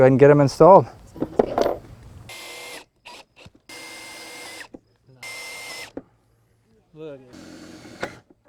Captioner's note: drills whirring, no additional audio